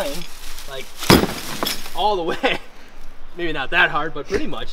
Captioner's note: laughs